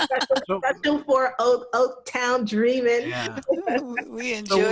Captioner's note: laughs; laughs